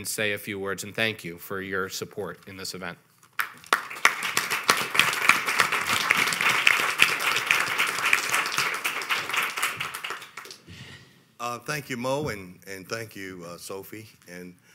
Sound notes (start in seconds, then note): 3.4 audience applauding